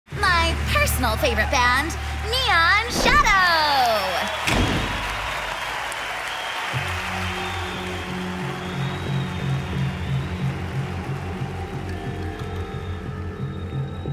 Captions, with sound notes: - My personal favorite band, Neon Shadow. (audience claps and cheers) (dramatic music)